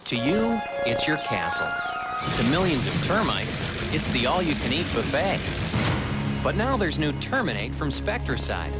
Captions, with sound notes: [V.O., over birds chirping] To you, it's your castle. [Over insect-y noises] To millions of termites, it's the all-you-can-eat buffet. [thunk!] But now there's new Terminate from Spectracide.